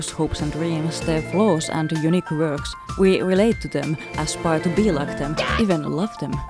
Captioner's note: Whitey screeches